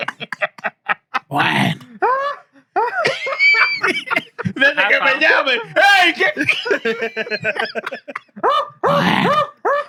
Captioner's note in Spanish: Riendo; Hablando en idioma extranjero